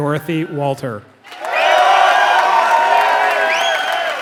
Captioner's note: applause